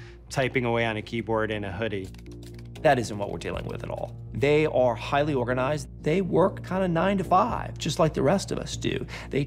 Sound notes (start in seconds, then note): 2.0 keyboard typing